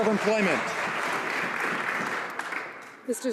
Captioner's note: some Applause